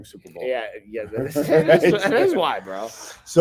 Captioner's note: both laughing